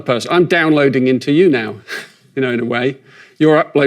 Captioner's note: chuckles